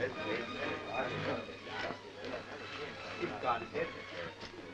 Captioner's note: group chattering